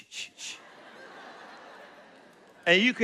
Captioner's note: laughter